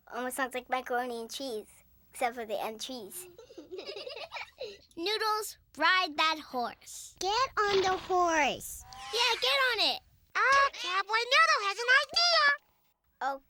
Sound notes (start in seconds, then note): 3.3 giggling